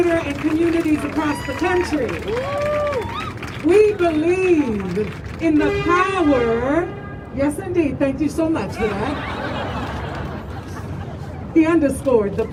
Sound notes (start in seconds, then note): 3.1 crowd cheering